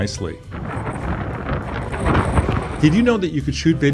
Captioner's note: wind blowing